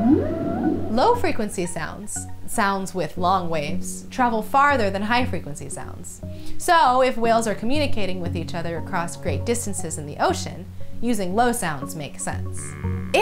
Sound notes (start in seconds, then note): 0.0 sounds with long waves